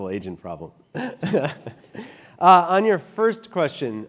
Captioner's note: laugh